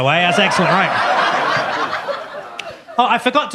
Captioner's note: audience laughs